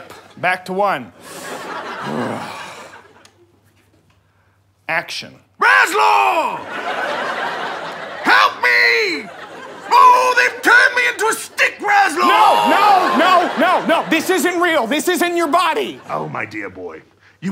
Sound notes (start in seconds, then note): 2.1 Sir Malcolm sighs; 6.6 audience laughter